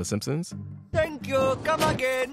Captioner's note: soundbite of tv show, "the simpsons"